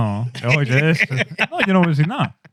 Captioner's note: laughing